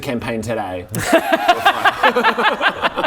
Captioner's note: outsmarted laughter